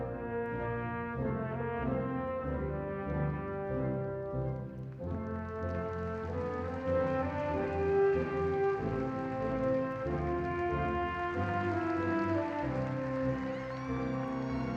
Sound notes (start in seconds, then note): 6.9 audience cheering and applauding